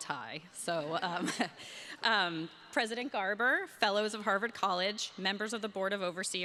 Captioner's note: chuckles